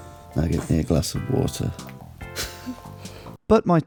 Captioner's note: chuckles